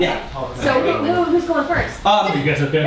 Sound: voiceover

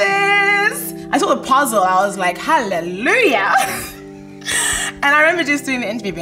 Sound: laughs

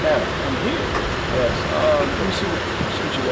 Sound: rain pattering

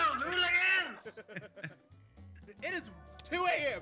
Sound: laugh

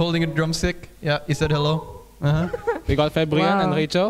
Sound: woo

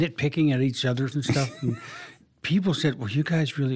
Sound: laughs

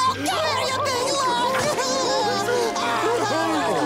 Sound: crying

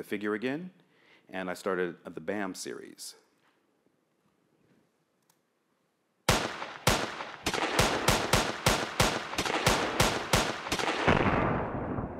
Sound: gun shots

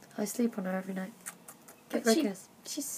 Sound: kiss noises

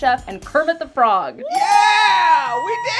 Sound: cheers

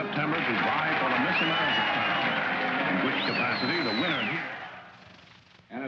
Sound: audience cheers

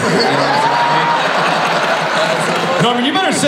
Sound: audience laughs

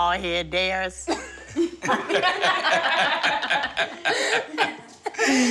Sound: laughter

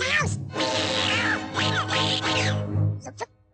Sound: Jaq screech meows

